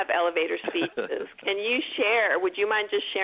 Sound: laughs

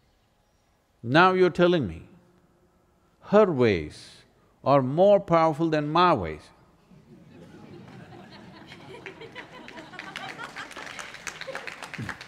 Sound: laughter/Applause

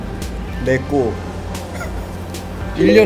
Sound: haha

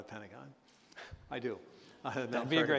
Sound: chuckle

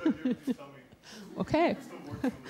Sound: laughter

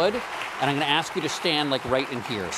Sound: applause

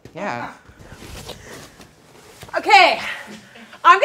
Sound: astroturf rustling

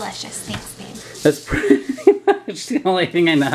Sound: laughs

